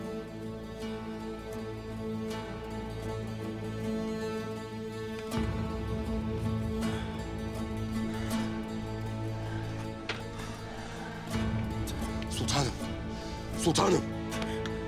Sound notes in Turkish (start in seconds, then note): 6.7 Nefes sesi